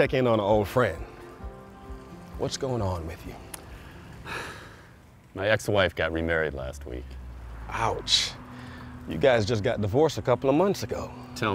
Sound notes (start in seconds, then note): 3.7 sighs